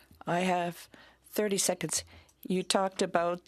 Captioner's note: speaking in French